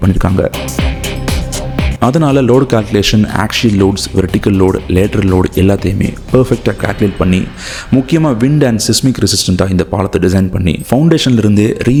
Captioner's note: wind, seismic